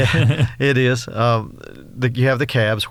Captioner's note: chuckles